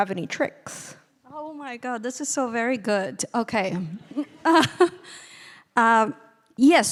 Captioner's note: laughing